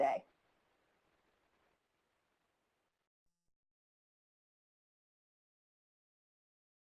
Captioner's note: silence